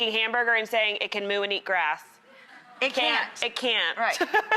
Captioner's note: laugh